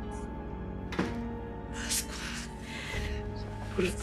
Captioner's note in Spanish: Portazo